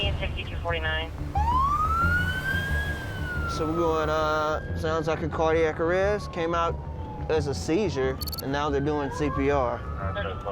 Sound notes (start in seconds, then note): 2.0 sirens blaring